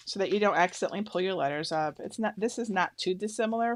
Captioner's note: none